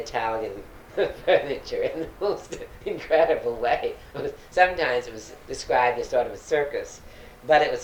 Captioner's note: laughs